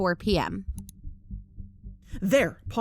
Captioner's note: click